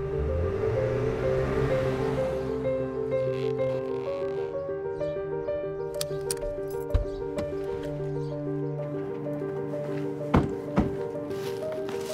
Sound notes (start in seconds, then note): 0.0 revving; 2.7 squeaking